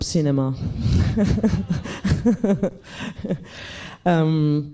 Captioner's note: laughs